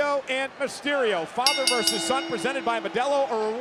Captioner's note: bell ringing